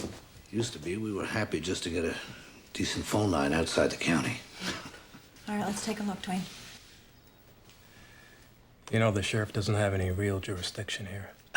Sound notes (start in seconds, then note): 4.5 chuckles